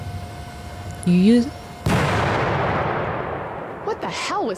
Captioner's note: loud bang